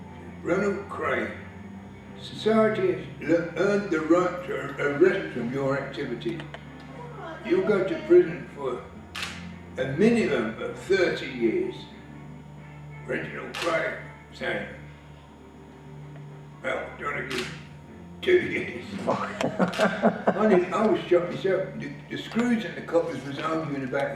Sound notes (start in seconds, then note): 18.9 laughing